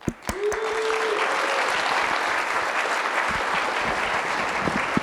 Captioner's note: audience applauding